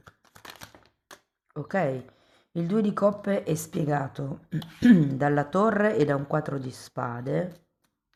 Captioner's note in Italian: schiarire la voce